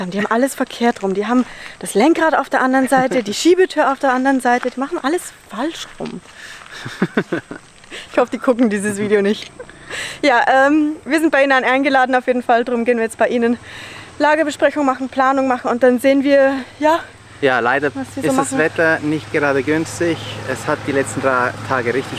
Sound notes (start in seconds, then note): 6.5 laughs; 9.6 laughter